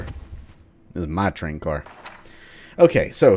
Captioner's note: journal opens